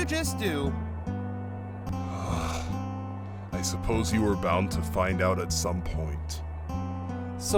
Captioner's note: sigh